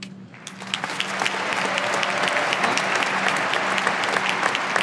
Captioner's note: audience applauding